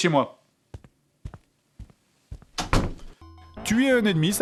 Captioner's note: walking sound